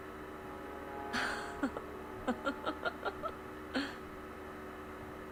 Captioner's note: giggling